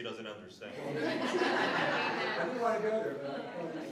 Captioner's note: laughter